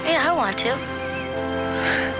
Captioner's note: chuckles